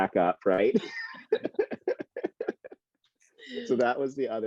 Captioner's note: laughs